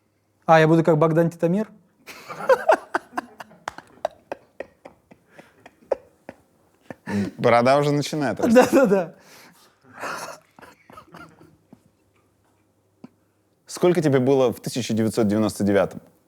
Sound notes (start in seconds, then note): 2.1 laughs, laughter behind camera; 10.0 laughs